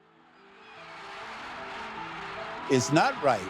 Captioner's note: crowd cheering